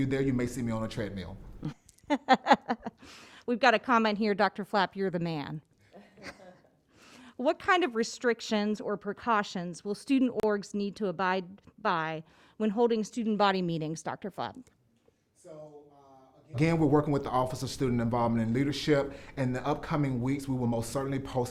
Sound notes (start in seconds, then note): 2.0 laughs; 5.9 laugh